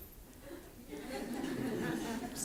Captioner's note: laughter